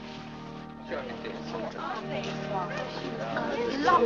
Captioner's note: parishioners chatting